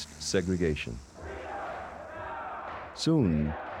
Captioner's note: crowd chanting, "freedom now"